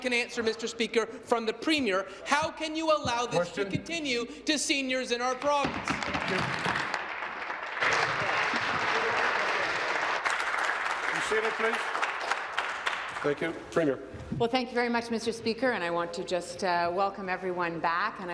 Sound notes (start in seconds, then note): 9.4 applause